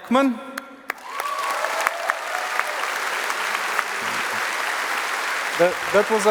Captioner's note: applause